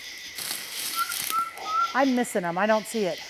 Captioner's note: person whistling